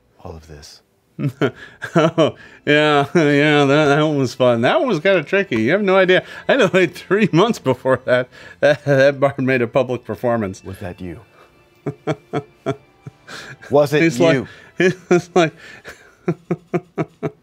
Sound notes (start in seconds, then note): 11.8 laughs